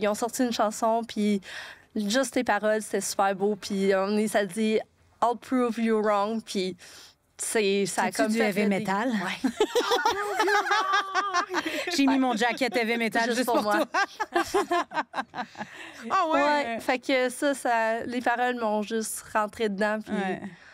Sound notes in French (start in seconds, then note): 14.3 rires